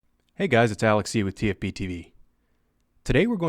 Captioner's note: voiceover